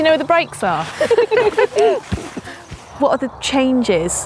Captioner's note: ladies laughing